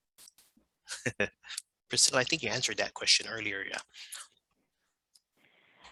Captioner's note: laughing